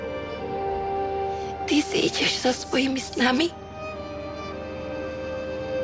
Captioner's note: Speaks Czech